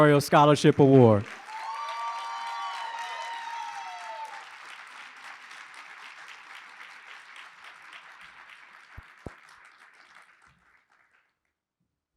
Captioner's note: applause